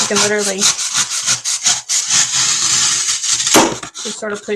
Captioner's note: foam cutting; thud